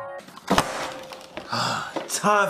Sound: sighs

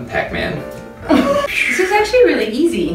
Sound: laughter

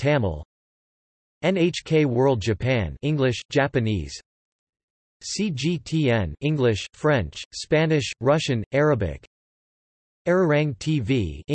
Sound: english, Japanese

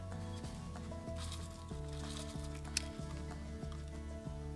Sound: metal tin opens; cocoa shells rustle

